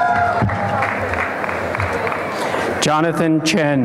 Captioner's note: applause and cheering